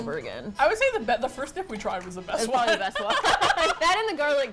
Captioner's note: both laugh